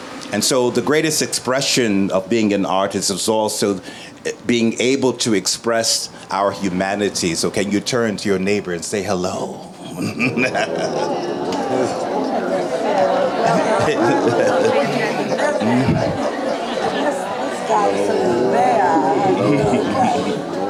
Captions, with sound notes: And so the greatest expression of being an artist is also being able to express our humanity. So can you turn to your neighbor and say hello? (laughing) (audience chattering)